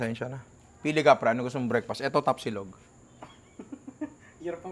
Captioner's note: laughs